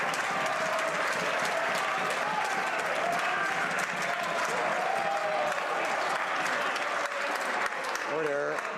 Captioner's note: some Applause